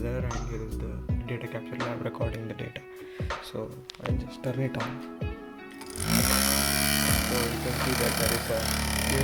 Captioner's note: fan noise